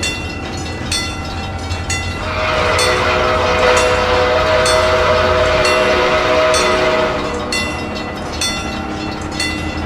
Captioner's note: C&O Greenbrier whistle; chuffing in the distance